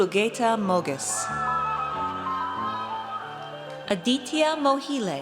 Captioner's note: audience cheers